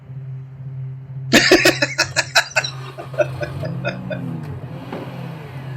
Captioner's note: laughing